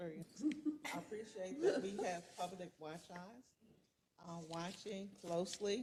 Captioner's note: laugh